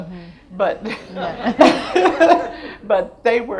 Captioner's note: laughs; audience laughs